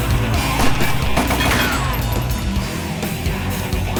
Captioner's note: gun firing